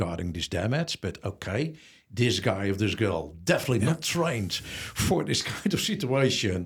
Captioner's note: laughs